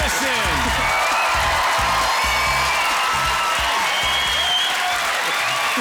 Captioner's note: applause